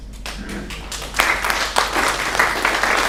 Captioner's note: applauding